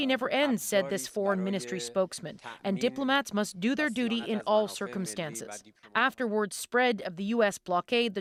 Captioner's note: speaking alternate language